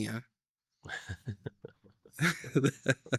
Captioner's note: laughing